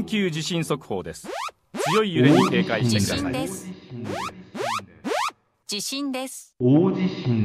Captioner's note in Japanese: 警報